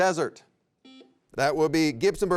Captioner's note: buzzer rings